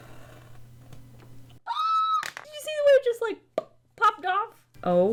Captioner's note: excited squeal